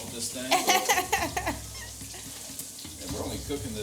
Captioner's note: laughs